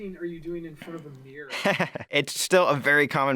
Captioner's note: laughing